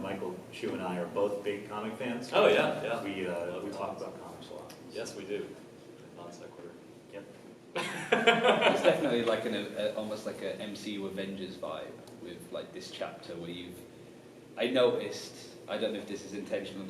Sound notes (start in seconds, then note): 6.1 whispering; 7.8 laughs